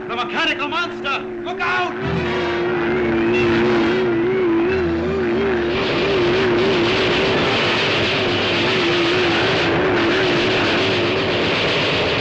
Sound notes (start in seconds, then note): 0.0 machine whirring; 0.0 whistle blaring; 2.7 dramatic music; 2.7 machine whirring; 6.1 guns firing; 6.1 machine whirring